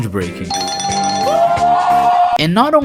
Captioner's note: bells ringing